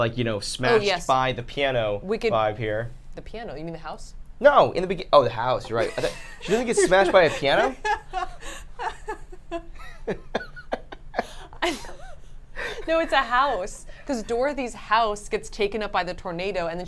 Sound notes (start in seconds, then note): 5.6 laughs; 7.8 laugh